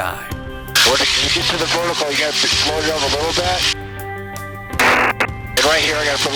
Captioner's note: radio static drowns out speaker